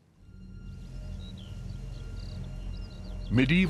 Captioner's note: birds chirping